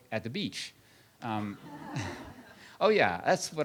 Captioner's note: laughter